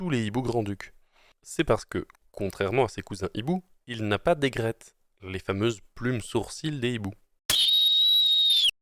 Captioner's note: owls